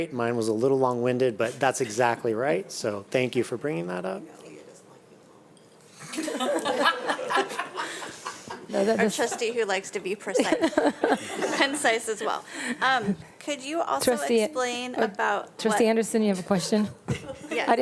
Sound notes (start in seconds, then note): 5.7 speaks faintly; 6.0 board members laughing; 10.3 laughing